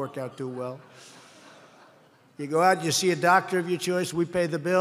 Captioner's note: laughter